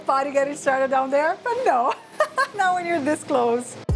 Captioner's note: laughs